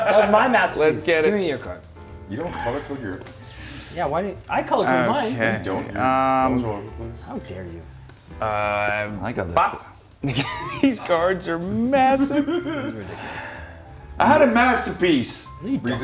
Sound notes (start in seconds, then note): 12.0 laugh